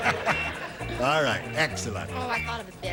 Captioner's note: laughter